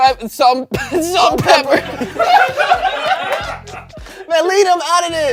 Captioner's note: everyone laughs